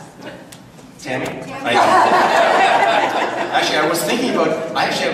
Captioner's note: audience laughs